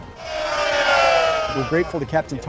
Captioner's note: all cheer